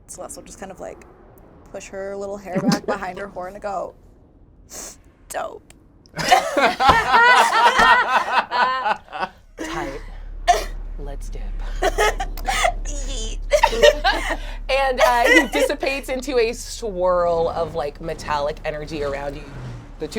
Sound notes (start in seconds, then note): 4.3 sniffles; 6.2 all laugh